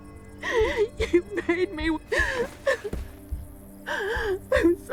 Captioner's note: crying; crying